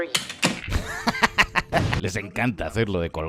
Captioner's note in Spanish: risa